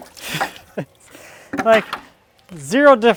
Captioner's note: laughs